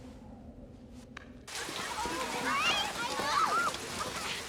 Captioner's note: kids chatter